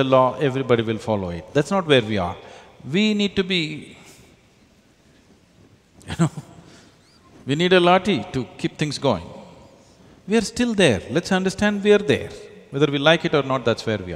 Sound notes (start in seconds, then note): 6.0 laughs